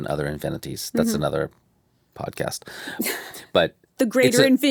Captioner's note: chuckles